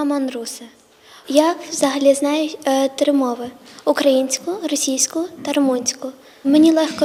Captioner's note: <i>Ukrainian</i>